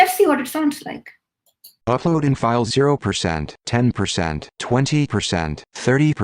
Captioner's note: synthetic speech